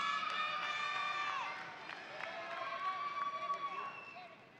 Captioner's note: audience applauding